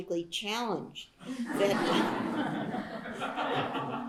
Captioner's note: laughter